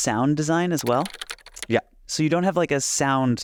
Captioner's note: keyboard clicking